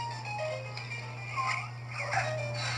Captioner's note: Luxo Jr. Squeals